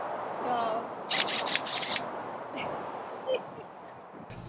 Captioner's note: whirring of impact driver